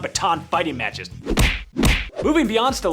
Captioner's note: smack